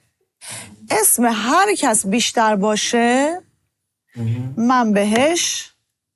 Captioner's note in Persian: صدای خرناس